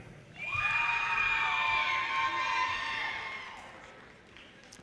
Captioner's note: audience cheers and applause